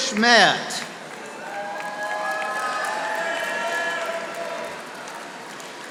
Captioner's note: audience applauding